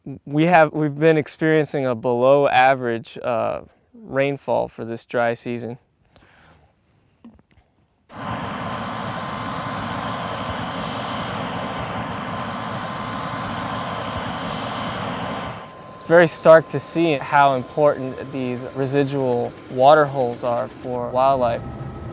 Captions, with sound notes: We have been experiencing a below average rainfall for this dry season. ( helicopter noise ) It is very stark to see how important these residual water holes are for wildlife.